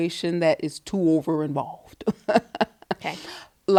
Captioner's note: laughs